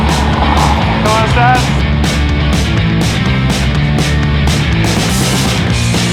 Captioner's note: speaking a foreign language